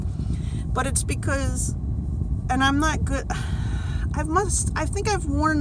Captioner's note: sighs